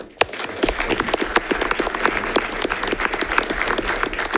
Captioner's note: audience applauding